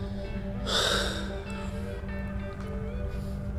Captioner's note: sighs